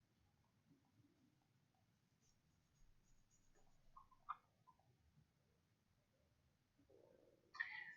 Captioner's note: silence